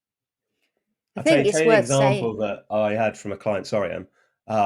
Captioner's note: talking